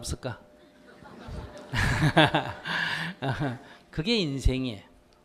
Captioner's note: audience Laughter